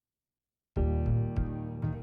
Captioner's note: none